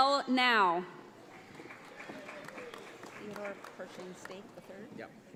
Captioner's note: audience applauds